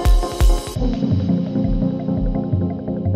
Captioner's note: engine sound